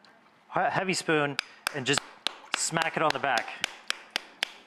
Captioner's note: smacking